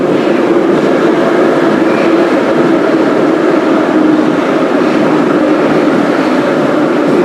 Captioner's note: braking - arrival at the station